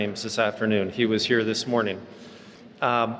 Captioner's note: none